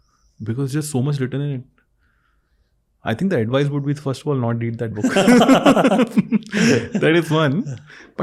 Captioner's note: laughing together